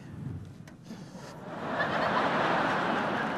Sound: laughter

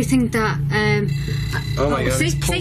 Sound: device alerting

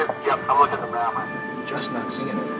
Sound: man On Radio

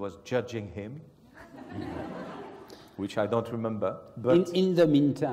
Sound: laugh

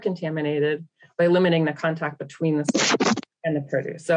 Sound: microphone crackles

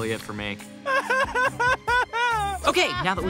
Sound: crying

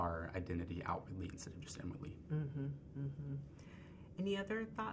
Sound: woman agreeing

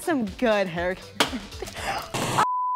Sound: gasping

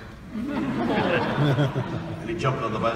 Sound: audience laughing

